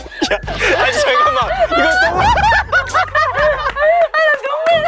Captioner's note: burst out laughing